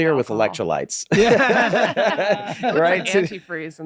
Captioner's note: all laughing